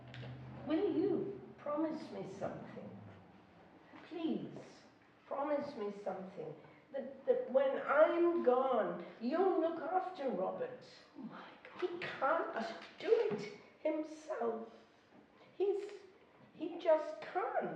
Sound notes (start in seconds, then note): none